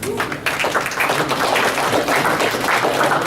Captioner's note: applause